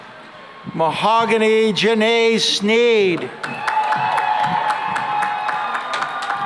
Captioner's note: cheering and applause